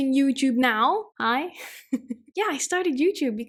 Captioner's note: laughing